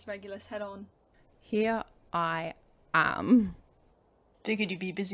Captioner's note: Regulus laughs